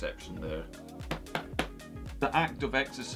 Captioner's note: slaps stomach